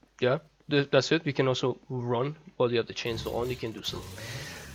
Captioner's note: revs up chainsaw again